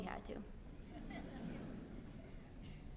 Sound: laughter

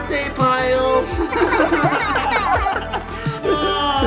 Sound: everyone laughs

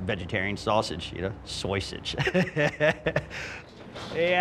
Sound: laughs

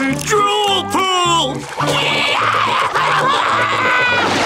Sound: screaming

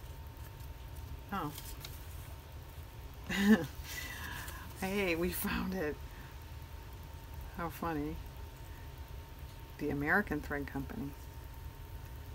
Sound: laughs

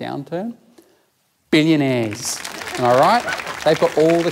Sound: audience laughs and claps

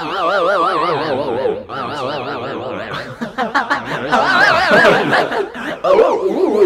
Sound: warbling, distorted voices; laughing

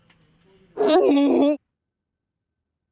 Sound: cries; sighs

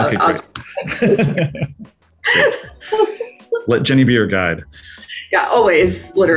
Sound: laughs

